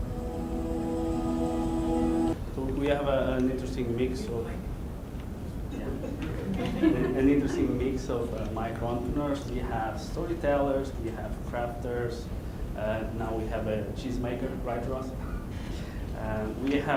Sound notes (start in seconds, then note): 5.8 laughing